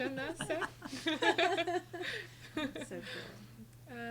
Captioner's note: group laughing